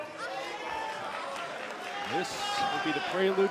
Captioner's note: crowd cheering